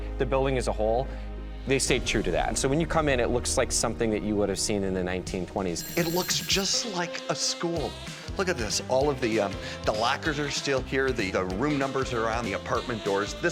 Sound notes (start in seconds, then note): 5.8 bell rings